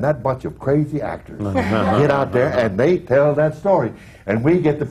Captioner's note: laughter